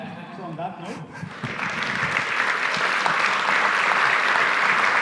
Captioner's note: audience applauds